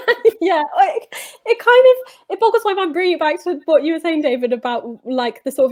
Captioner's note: laughter